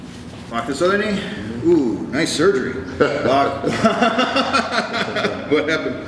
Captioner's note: laughs